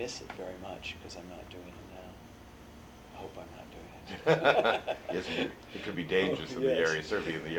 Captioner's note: laughter